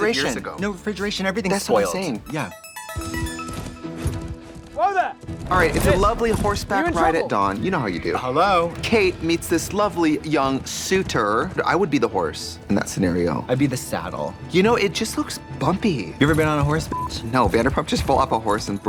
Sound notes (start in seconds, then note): 1.6 musical flourish; 4.1 dramatic music; 16.9 beep